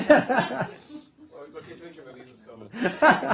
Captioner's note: laughter